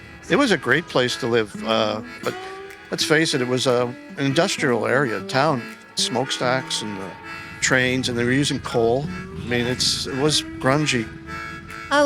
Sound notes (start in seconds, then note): 5.9 train horn; 8.1 truck drive